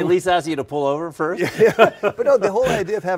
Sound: laugh

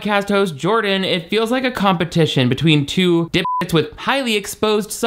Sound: beep

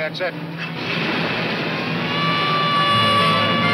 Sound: siren wailing

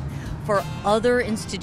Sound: vehicles revving distantly

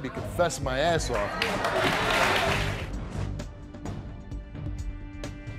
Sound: audience applauds

